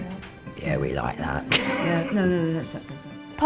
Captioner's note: laughs